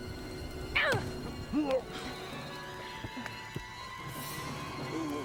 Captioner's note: man grunts; dramatic music